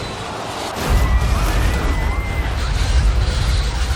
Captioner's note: spectators screaming